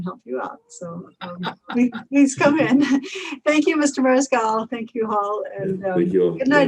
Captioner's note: laughs